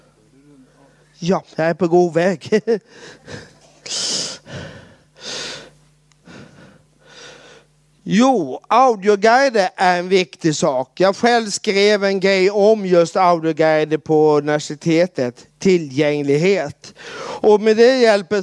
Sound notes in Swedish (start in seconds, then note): 2.5 skrattar